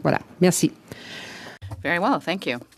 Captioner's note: speaking French